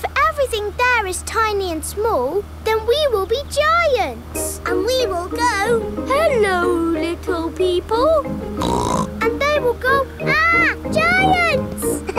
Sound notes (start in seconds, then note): 8.6 snorts